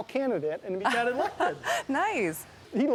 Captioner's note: laughing